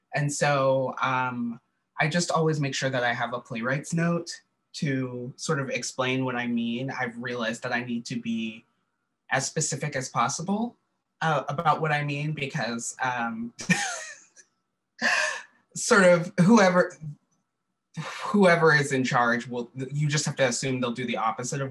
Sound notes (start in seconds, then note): 13.6 laughter